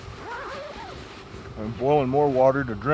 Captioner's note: zipping